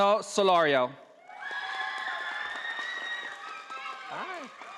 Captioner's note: audience applauding